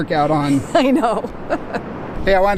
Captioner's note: laughing